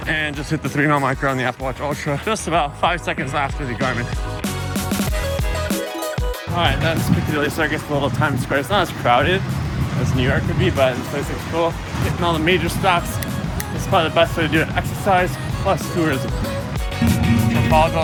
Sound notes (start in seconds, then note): 3.5 electronic music continues; 13.2 snaps fingers twice; 15.4 electronic music continues